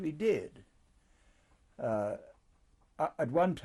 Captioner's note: pauses for 3 seconds